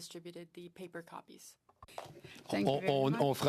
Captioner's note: speaking French